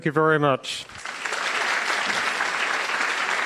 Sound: applause

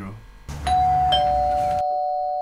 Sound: doorbell

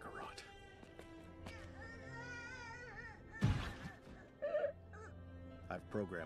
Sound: baby crying

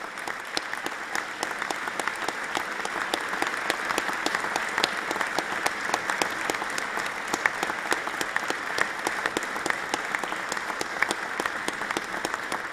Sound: applause

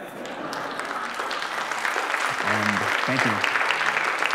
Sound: applause

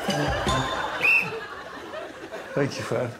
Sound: whistle blows

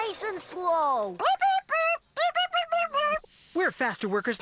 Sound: chirping

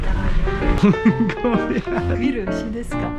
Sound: laughs

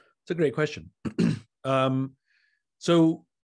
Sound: Simon coughs

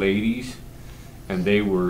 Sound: none

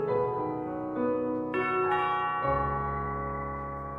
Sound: doorbell

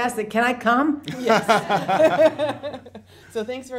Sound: laughing

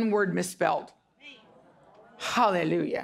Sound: audience murmuring

